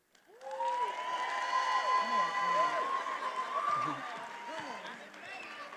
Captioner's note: attendees applauding and cheering